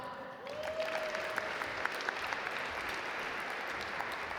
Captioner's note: audience applaud